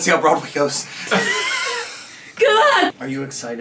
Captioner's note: all laughing